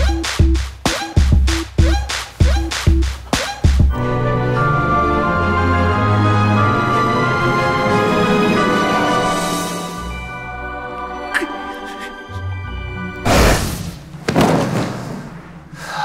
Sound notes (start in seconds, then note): 0.1 upbeat music plays; 11.2 muffled sobbing; 14.2 bodies thud on the floor